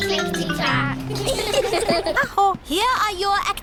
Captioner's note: all giggle